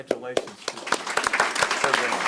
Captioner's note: applause